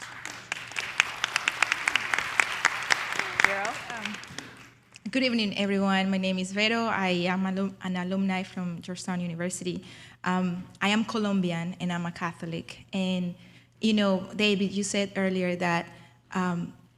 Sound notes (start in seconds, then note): 1.9 audience applauds